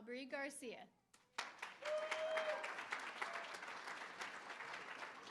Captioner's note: applause; cheering